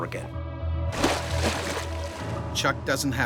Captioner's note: splashing; voiceover